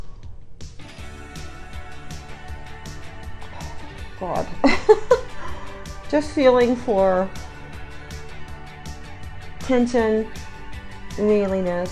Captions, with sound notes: (upbeat music) God. (chuckles) Just feeling for tension, mealiness,